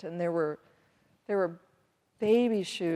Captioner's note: none